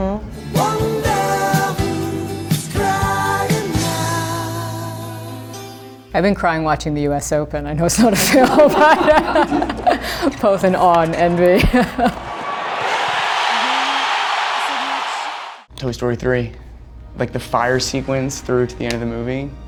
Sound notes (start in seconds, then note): 11.5 crowd cheering